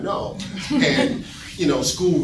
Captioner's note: audience laughing